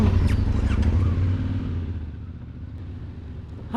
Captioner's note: bike rumbling